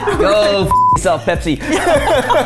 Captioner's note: beep